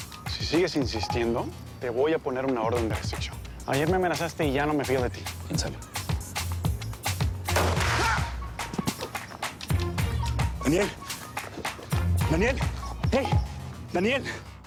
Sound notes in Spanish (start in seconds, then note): 7.5 Disparo; 7.8 Grito